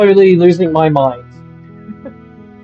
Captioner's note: SANE giggle